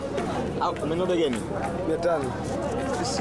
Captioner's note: speaks Swahili